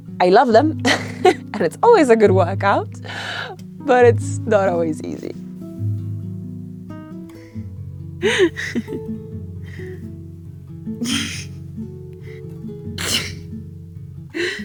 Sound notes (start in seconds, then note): 0.8 chuckles; 8.2 chuckling